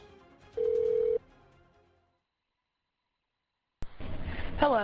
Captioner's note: phone ringing